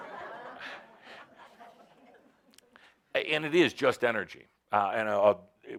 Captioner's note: laughter